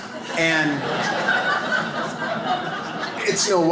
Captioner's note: audience laughs